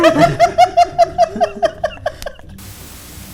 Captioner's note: laughing continues